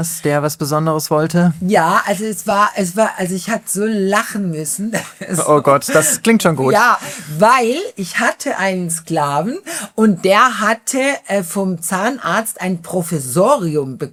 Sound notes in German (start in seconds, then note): 4.9 gelächter